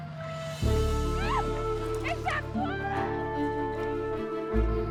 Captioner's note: screaming